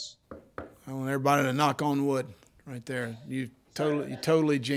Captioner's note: knocks